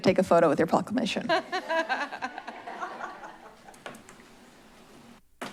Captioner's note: laugh